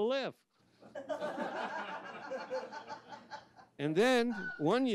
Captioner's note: audience laughs